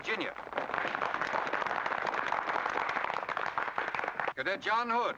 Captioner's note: crowd applause